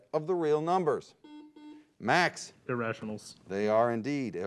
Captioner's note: beep